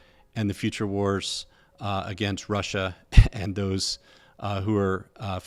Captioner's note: laughs